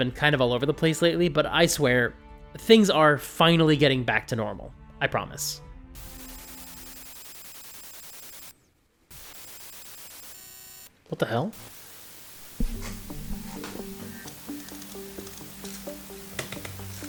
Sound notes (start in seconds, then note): 6.1 static glitching; 12.6 mysterious music